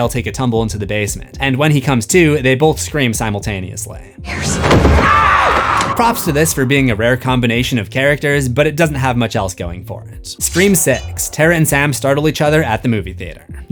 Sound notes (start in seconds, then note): 4.2 screams